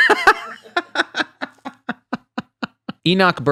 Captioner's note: laughs